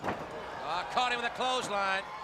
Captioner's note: crowd chatter